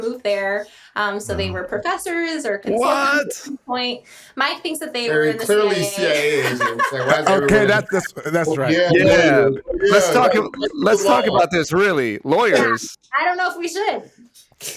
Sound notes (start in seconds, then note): 8.3 laughing